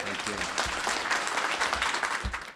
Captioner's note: applause